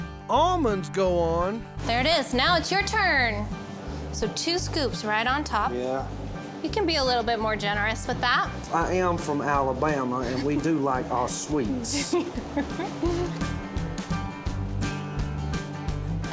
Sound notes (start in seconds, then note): 11.9 giggling